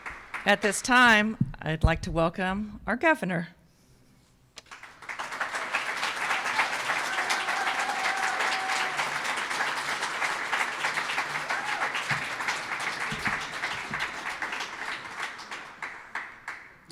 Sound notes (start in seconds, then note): 5.4 audience applauds; 7.9 scattered cheers